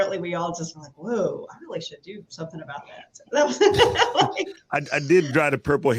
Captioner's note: laughs